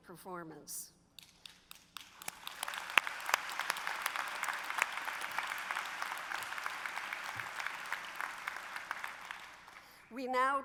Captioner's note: applause